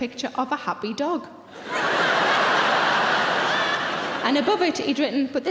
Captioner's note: audience laughing